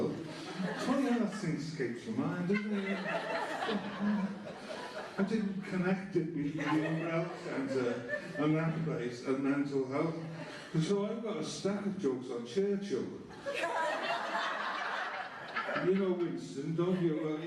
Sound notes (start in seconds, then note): 13.3 laughter